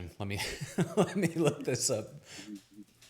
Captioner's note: laughs